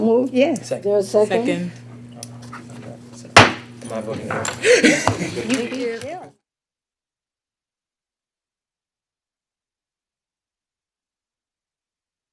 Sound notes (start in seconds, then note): 3.4 gavel slams